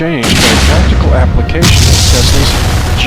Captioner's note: bomb explodes